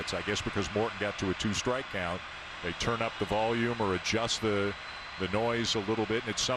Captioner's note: cheering and Applause